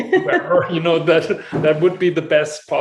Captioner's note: laughs